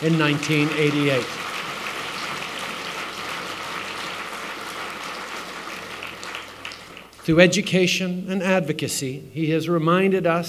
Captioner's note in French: Applaudissements